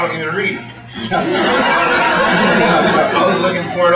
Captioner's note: laughter